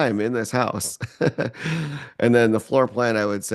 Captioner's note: laughs